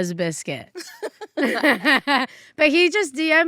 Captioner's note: laugh